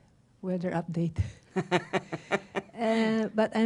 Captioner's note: laughter